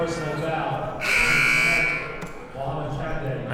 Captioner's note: buzzer blares